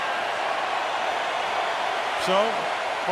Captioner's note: cheering